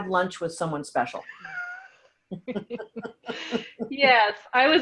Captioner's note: laughing